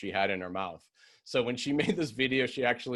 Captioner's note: laughter